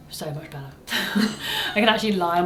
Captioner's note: both laugh